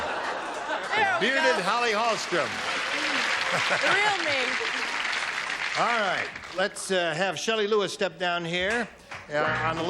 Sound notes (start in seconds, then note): 0.0 laughter; 1.8 applause